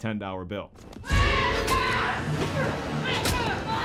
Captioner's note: screaming